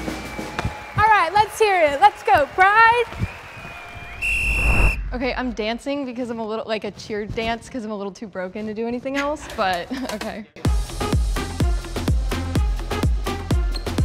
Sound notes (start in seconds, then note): 3.2 whistle blowing; 4.3 crowd cheering